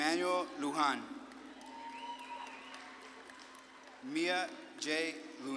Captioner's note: audience claps and cheers